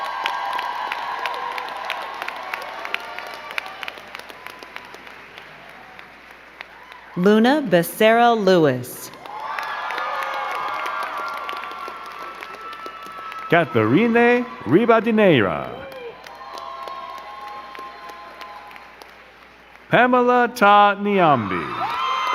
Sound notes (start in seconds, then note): 0.0 crowd cheering and clapping; 9.7 crowd cheering and clapping; 16.3 crowd cheering and clapping; 22.1 crowd cheering and clapping